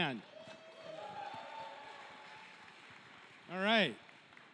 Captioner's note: cheering